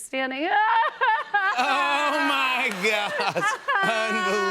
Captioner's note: mock crying